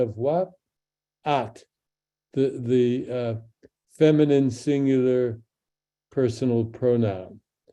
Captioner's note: speaks in Hebrew